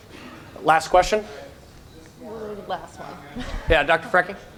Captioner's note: chuckles